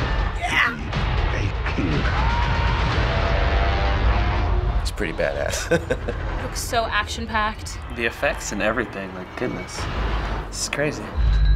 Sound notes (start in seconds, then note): 5.4 chuckles